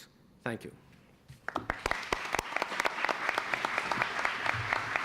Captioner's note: applause